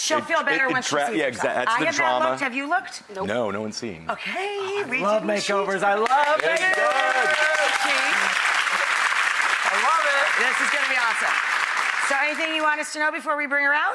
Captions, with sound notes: She'll feel better once she sees herself. I have not looked, have you looked? Nope. No, no ones seen. Okay! Oh I love makeovers, I love makeovers! (audience claps) I love it! This is gonna be awesome. So anything you want us to know before we bring her out?